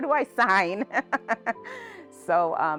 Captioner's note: laughing